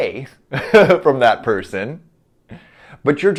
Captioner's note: chuckles